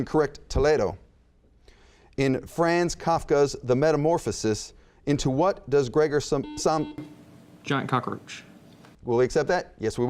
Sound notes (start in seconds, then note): 6.5 buzzing